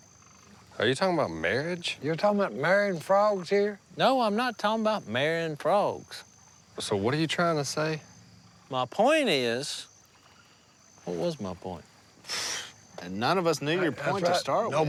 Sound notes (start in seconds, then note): none